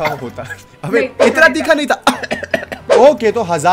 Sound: mimics coughing

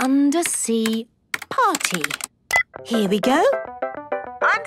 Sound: beep

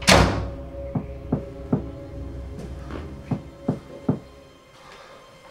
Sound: knocking

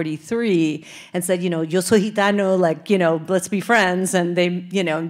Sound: speaking Spanish

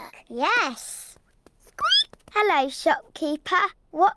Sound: squeaks

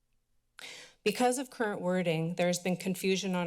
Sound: sigh

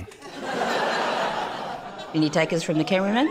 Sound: laughter

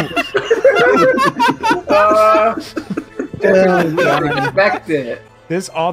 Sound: laughter

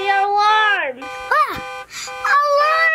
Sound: alarm ringing

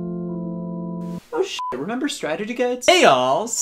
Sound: soothing music; beep

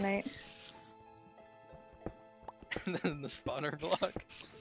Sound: laughs

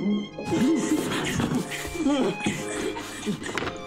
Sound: grunting

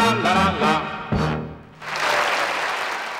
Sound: audience applauds

